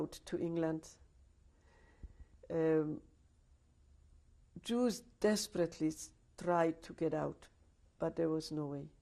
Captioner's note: pauses for 3 seconds